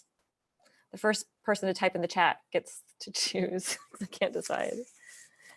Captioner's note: chuckles